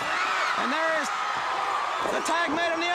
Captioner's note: crowd cheering